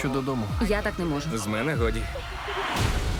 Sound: sobs

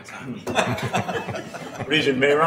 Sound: laughing

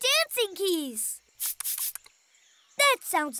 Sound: swooshing

